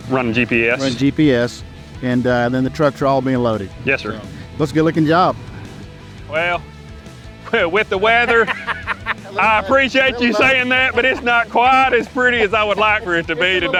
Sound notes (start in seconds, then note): 8.0 laughs